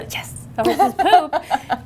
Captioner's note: laughs